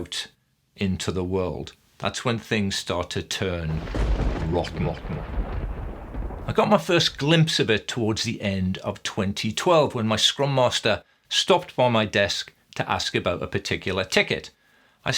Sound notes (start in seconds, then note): 3.6 thunder rumbling